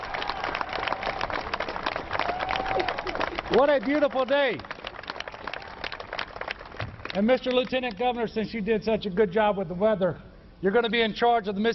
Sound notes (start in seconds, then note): 0.0 applause; 4.8 crowd cheering